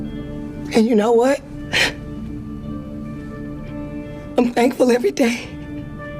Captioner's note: crying